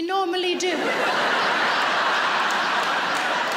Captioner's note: laughing